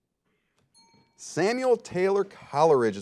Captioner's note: ding